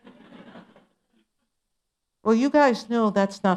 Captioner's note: laughter